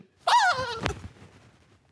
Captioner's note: rustling; soft scream